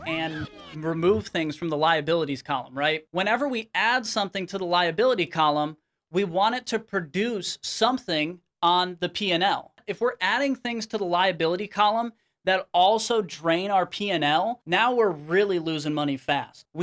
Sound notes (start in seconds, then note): none